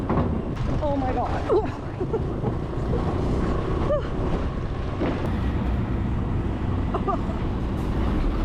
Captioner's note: laughs